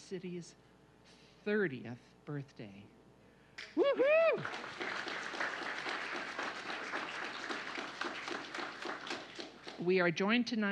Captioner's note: applause